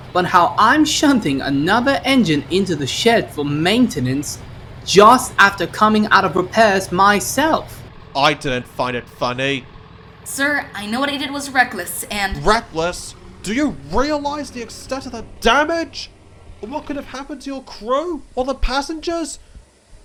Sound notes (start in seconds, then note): none